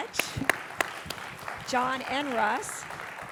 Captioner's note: audience applauding